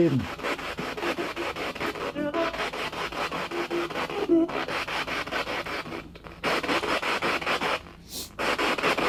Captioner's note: radio noise from the spirit box